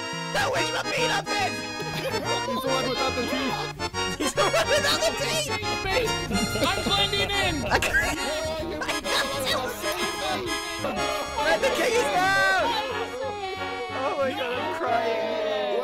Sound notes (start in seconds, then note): 4.1 laughing; 9.9 wheeze